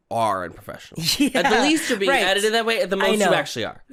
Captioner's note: laughing